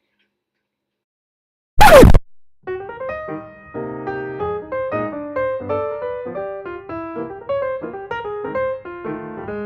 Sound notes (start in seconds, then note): 1.8 record scratch